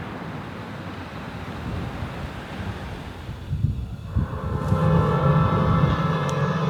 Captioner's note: sounds of cars